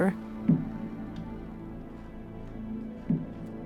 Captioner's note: eerie voice